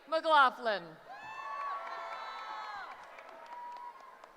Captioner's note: cheering